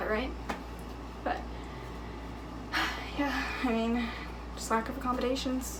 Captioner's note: sighing